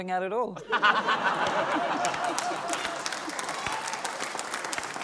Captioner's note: laughter, cheering, applause